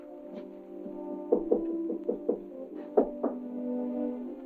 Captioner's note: knocking on door